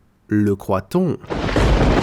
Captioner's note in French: Bruit de tonnerre